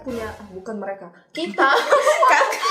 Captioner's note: laughing